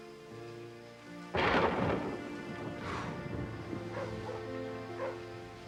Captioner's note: thunderclap continues